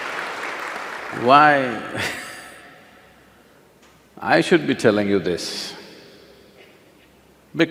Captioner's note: laughs; applause; laughs